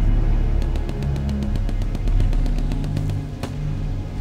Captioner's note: guns firing